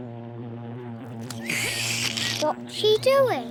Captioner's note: buzzing; slurps; belches